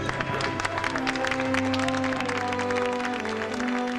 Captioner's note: applause